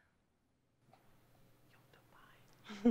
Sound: whispers; chuckles

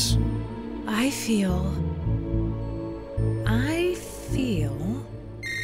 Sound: phone rings

